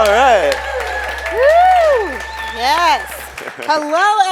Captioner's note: audience claps and cheers